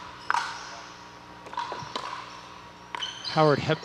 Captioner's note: ball bouncing